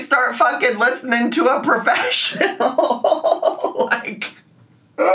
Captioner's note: laughing